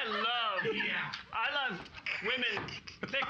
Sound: giggling

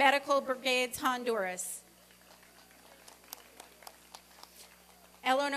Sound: applause and cheering

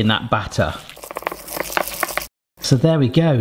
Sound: whisk beating

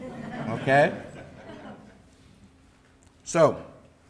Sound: audience laughing

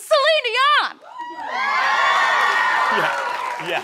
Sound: cheering

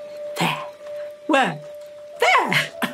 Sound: laughs

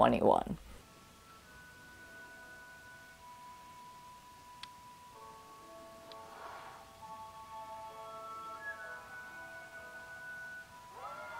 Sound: crowd cheering

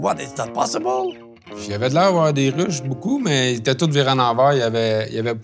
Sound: speaking in French

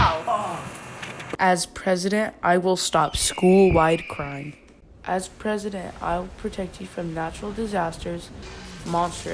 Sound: eagle cry in background

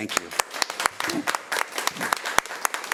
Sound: applause

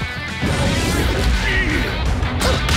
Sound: Donkey Kong grunts

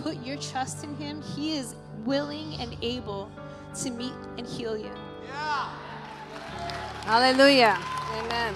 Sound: audience cheering

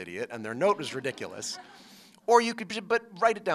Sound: laughter

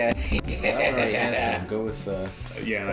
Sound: evil laugh

